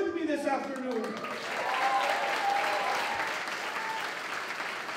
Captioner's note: applause